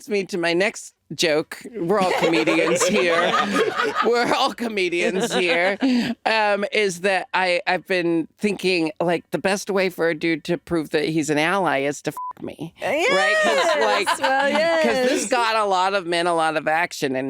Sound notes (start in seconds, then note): 3.4 all laughing; 12.1 beep